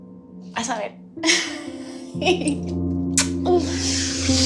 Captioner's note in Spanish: Risas